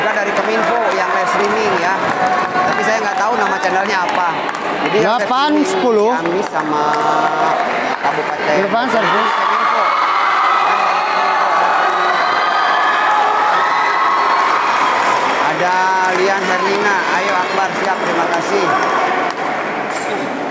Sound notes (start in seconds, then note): 0.0 applause; 9.6 applause